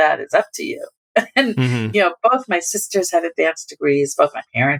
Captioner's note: laughter